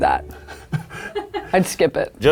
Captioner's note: people laughing